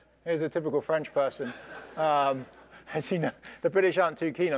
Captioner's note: laugh